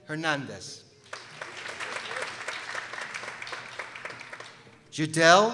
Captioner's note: people applauding